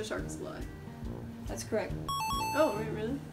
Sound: correct ding

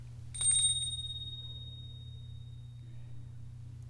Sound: bells ringing

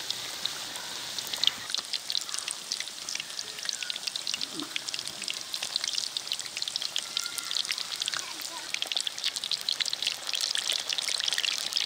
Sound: oil sizzling

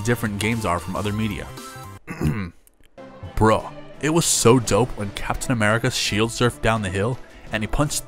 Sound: clears throat

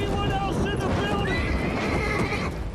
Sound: shrill neigh

